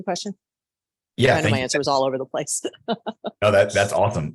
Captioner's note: laughs